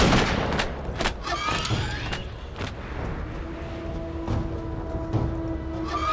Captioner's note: gunshots